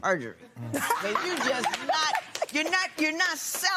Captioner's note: laughter